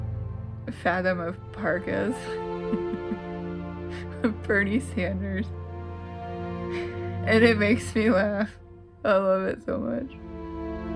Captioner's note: laugh